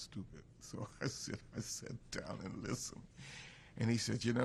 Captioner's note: laughs